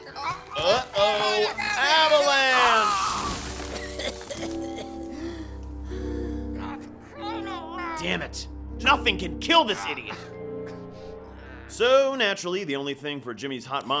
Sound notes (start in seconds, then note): 3.2 coughing